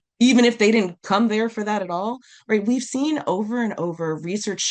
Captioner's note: none